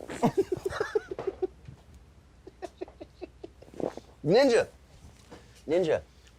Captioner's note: laughs